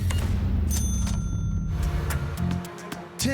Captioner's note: cash register beeping, dings